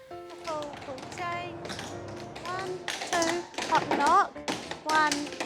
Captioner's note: tap dancing